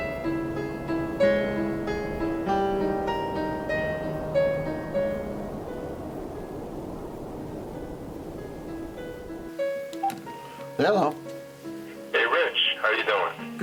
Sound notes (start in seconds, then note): 0.1 melancholy piano music continues; 10.0 phone bleeps